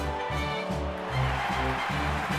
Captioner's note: crowd cheering